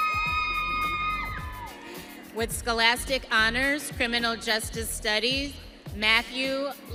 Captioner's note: audience cheering